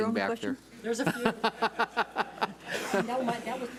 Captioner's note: laughs